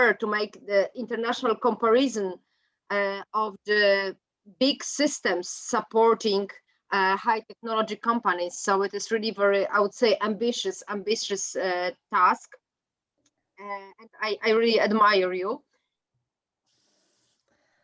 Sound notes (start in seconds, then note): 13.6 mic distortion